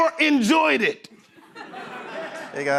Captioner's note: laughter